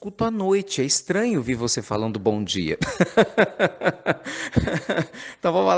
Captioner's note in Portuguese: Risos